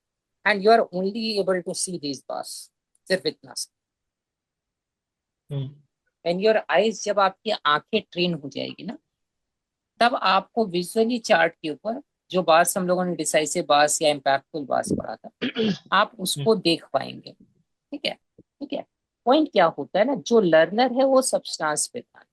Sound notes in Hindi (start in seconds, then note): 15.4 गला साफ़ करने की आवाज़